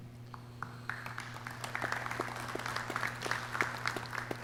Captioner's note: clapping